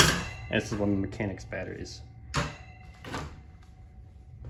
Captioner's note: metallic thunks; thunk